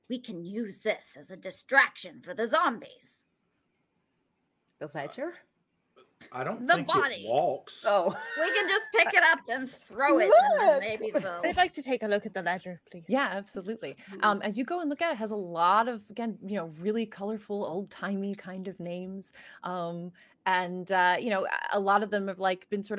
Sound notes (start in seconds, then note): 7.8 laughing